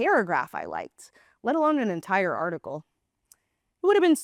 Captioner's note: gasp